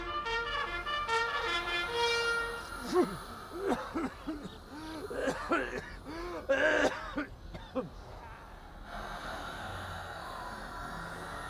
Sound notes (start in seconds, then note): 2.7 coughing